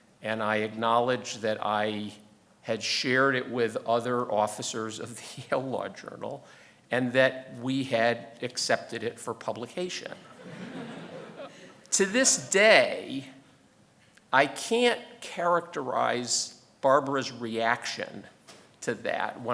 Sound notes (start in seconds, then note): 10.2 audience laughing